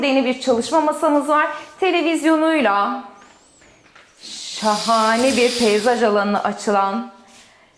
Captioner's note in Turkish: homurdanır